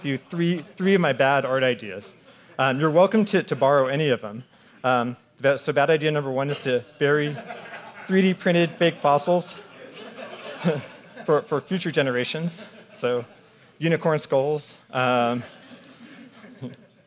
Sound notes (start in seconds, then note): 9.6 audience laughing